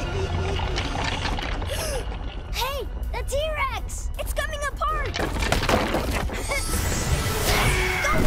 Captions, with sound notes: [RUMBLING] [GASPS] Hey, the T-rex! It's coming apart! [CRUMBLING] Go, Reps, go!